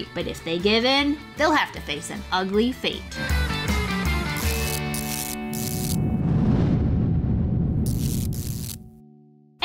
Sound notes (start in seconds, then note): 3.6 rock and roll intro; 4.2 neon crackles